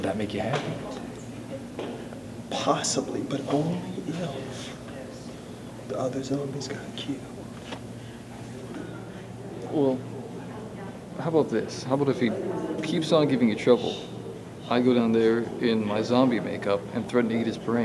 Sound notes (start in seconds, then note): none